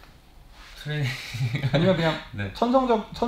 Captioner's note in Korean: 웃음